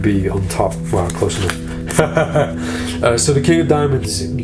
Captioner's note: laughs